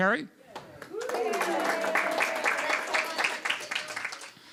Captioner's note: applause